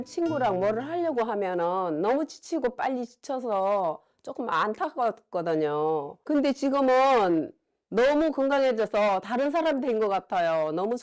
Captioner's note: voiceover